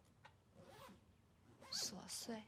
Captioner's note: suitcase zips